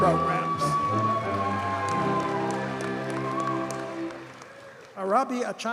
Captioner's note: audience cheers and applauds